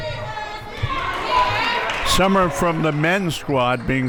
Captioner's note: audience clapping